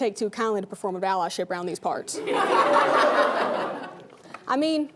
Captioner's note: laughing